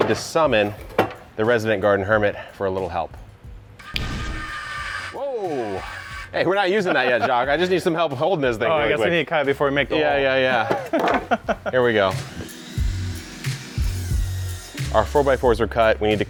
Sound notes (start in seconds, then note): 3.8 machine whirring; 10.4 laughs; 11.9 saw machine whirring